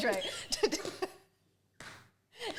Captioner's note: laughs; both wheeze with laughter